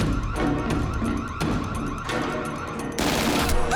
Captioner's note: dramatic music playing; wailing continues; gasps